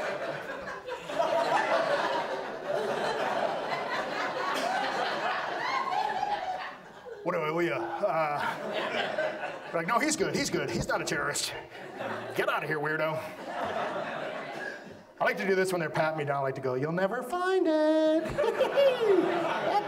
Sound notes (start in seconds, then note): 7.0 audience laughs; 15.0 audience laughs; 18.2 fake laughs